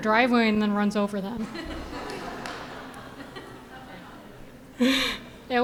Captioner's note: audience laughing